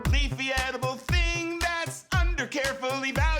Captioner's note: none